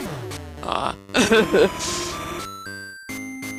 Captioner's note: laughs